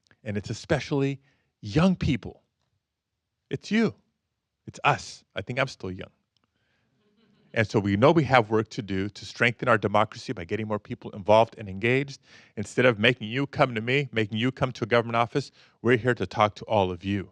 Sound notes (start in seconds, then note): 6.7 audience chuckles